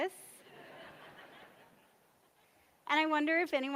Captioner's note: audience laughs